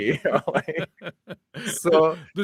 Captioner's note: laughing